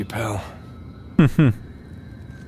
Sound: chuckles

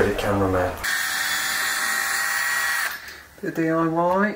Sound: drill whirring

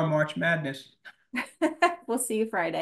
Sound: laughter

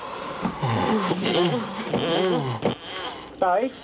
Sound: moaning

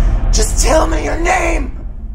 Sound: says through teeth

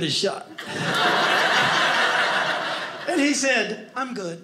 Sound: audience laughing

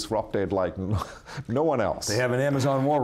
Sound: chuckles

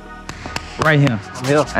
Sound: hands clapping

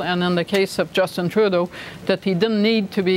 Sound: none

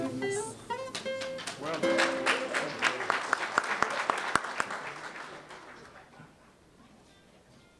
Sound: applause

